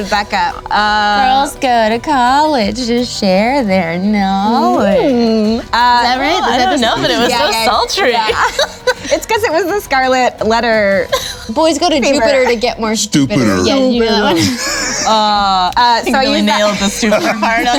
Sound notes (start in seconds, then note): 13.3 laugh